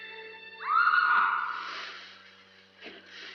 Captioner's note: woman screams